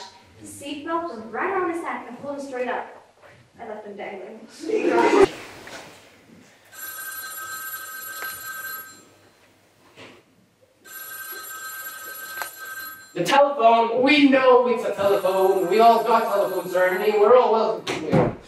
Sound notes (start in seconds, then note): 6.5 telephone rings